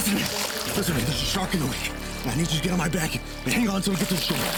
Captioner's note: grunts; tense music